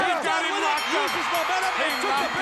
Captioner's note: crowd cheering; bell ringing